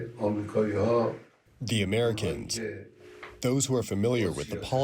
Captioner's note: through translator